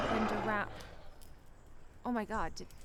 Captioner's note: animal grunting